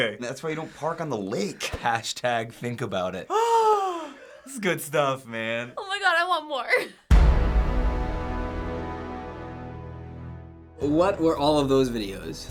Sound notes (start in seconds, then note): 3.3 sighs gleefully; 7.1 dramatic chord